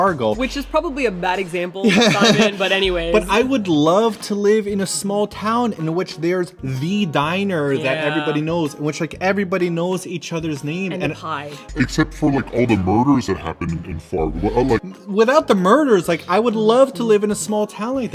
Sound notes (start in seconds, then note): 1.8 laughs; 11.9 deep voice; 14.9 normal voice